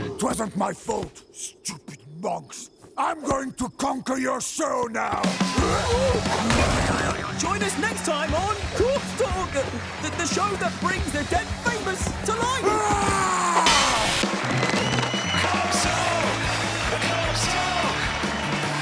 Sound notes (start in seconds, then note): 5.5 shouting; 12.5 screaming; 14.2 cheering